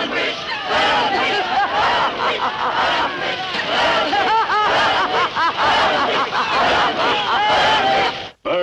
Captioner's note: crowd chanting; witch laughing; chanting